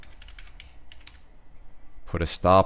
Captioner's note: typing